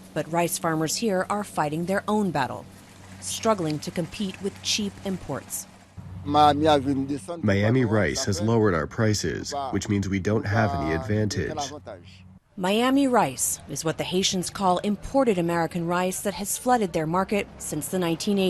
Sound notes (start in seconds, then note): 8.4 through translator